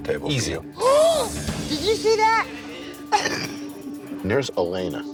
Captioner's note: laughs